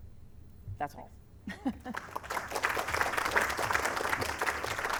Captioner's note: applause